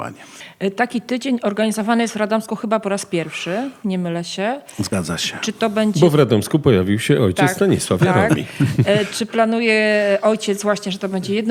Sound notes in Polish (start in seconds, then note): 7.9 śmiech